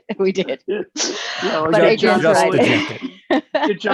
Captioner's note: laughs